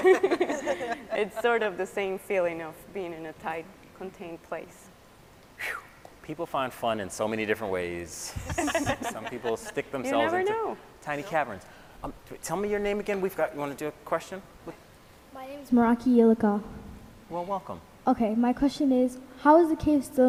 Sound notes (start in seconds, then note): 0.0 scientists laughing; 8.4 laughing